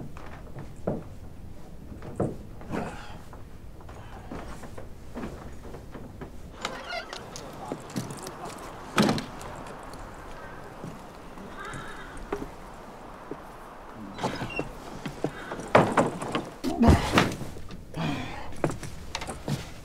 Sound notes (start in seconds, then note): 7.6 door creaks open; 9.8 door shuts; 17.9 thuds